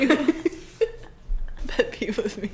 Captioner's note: laughs